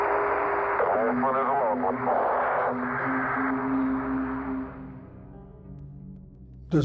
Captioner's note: garbled radio static